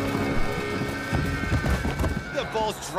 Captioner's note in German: Pochende Laute